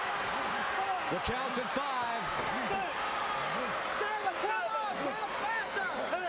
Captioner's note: crowd chattering